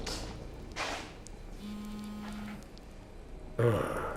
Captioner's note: cell phone vibrating